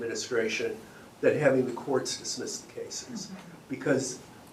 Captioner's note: clears throat